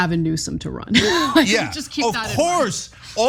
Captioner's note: laugh